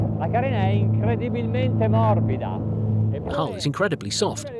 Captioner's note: speaking in foreign language